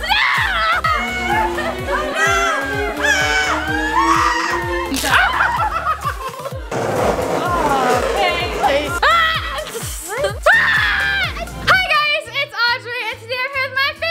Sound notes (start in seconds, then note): 1.3 anticipation music; 2.9 screaming; 4.9 electric buzz; 5.8 laughing; 7.0 nail scratching; 10.4 screaming